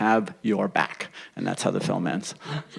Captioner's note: laughter